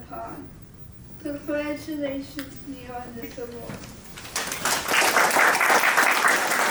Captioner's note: applause